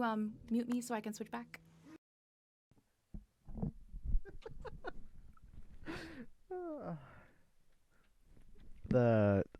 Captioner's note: still laughing